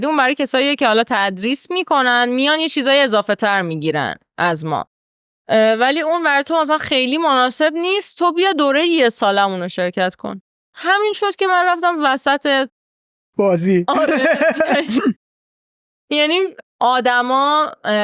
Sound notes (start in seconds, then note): 13.4 laughs